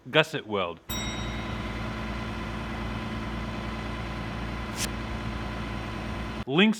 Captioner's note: machinery sounds